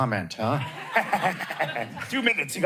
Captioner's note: laughter